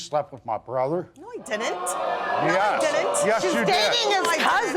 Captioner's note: audience exclaiming